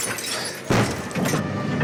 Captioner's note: glass shattering